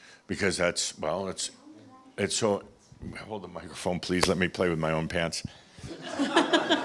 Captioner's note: laughter